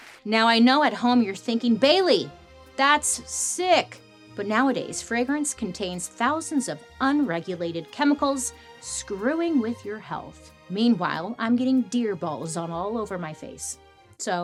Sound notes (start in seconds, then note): none